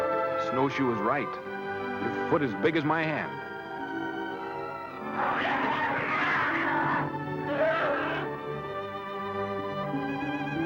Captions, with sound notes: 'Snowshoe is right.' 'Your foot is big as my hand.' [growling]